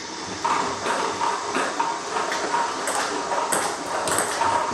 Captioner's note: ball ping pong hitting